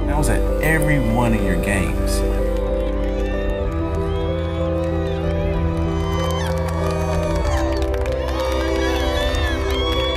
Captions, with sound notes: I was at every one of your games. (people cheering)